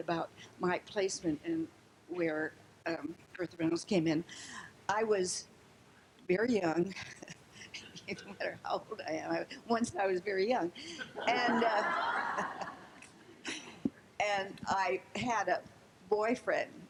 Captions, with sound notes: about my placement and where Bertha Reynolds came in. I was very young. It doesn't matter how old I am. Once, I was very young, and, uh, (laughing) and I had a boyfriend.